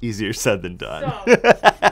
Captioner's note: laughs